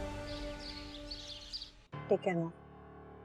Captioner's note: birds chirping